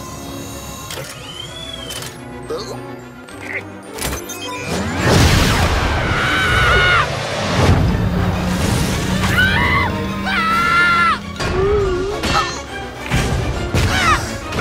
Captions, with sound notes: Ooo? arghh! [Scream] [Desperate screams] Ooo! Aaa!